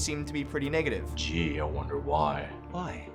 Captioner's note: sarcasm